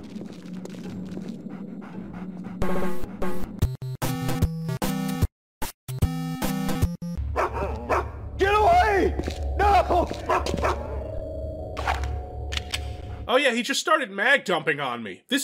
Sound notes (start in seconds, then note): 7.3 bark bark